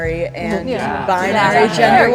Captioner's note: group chattering